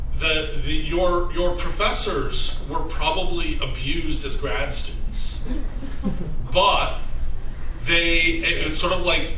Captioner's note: laughter